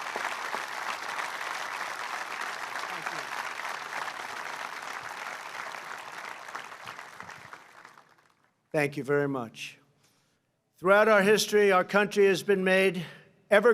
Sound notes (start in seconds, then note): 1.7 applause